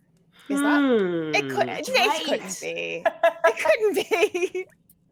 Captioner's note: laughs